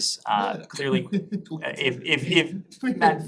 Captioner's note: laughter